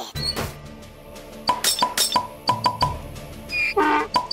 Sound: sound effects play

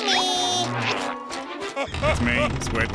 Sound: Patrick crying

